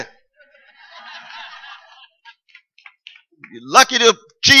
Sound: laughter

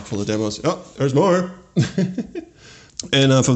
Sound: chuckles

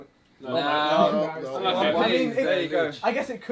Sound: all chattering

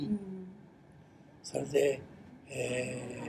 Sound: foreign language

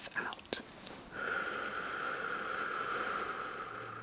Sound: exhales

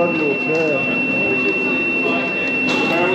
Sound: beeping noise

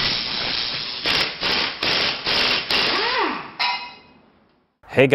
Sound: electric crackling; metallic shunting

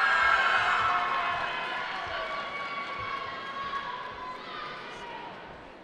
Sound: cheering

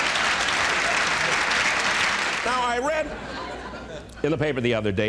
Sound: applause and laughter

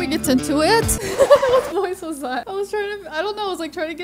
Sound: record scratches

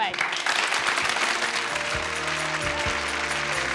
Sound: applauding

